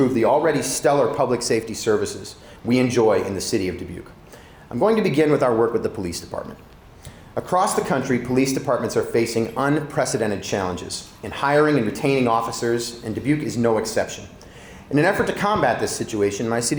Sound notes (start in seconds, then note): none